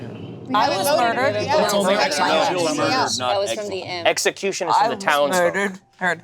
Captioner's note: group talking together